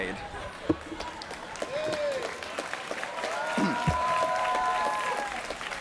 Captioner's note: applause